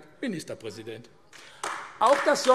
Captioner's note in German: Beifall AfD